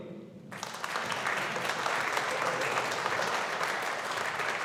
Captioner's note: audience applauding